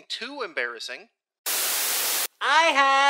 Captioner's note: static